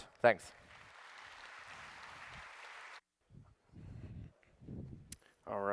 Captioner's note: applause